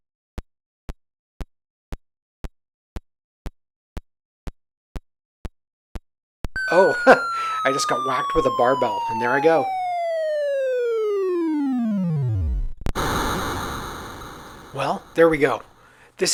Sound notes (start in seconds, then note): 9.7 descending tone followed by a crash